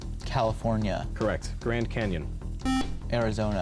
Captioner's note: buzzer